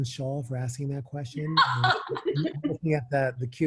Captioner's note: laughter